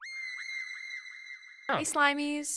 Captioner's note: character screams